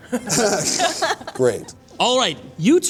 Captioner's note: laughter